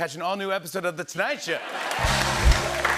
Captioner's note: cheers and applause